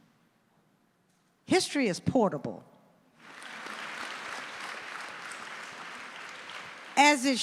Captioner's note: audience applauding